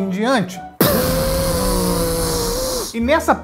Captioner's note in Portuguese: explosão